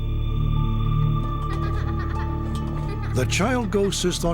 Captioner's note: laughing